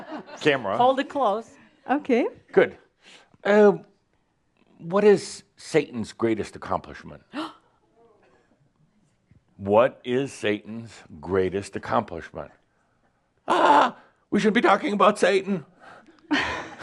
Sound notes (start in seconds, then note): 7.3 gasps; 16.2 Adamus chuckles